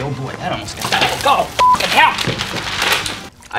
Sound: beep

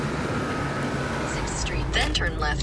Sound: GPS Voiceover

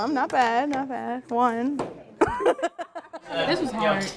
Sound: laughing

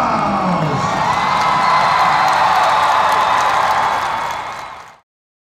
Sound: audience cheers and applauds

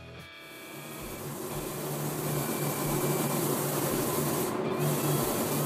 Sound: paint gun spraying

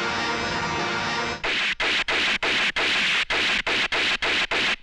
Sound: gun Firing

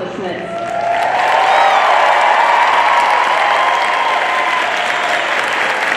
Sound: audience cheering and applauding

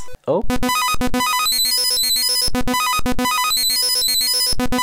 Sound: beeping sounds

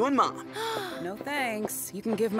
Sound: gasping

